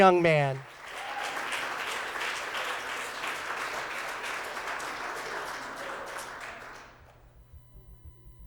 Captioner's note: applause